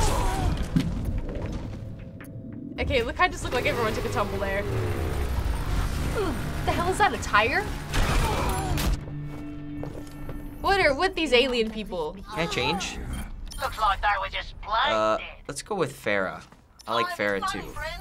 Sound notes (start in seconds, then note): 4.8 motor rumbling; 7.9 explosion and groans